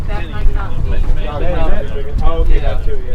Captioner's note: crew members chattering